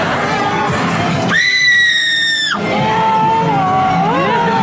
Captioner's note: screaming; humming